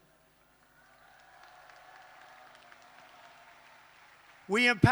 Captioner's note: applause